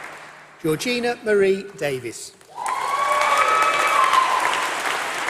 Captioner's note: applause